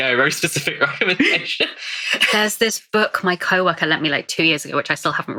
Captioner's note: laughing